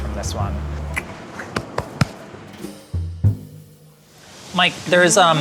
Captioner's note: tongue clicks; soft jazzy music